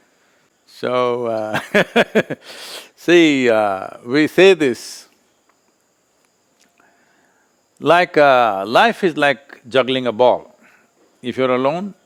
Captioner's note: laughs